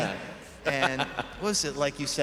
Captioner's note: chuckling